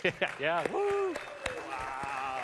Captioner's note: applause